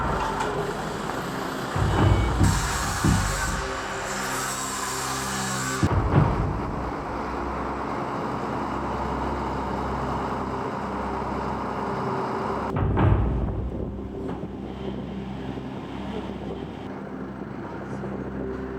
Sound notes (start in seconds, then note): 2.4 flames roaring; 5.9 machinery whirring